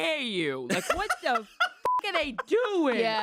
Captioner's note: beep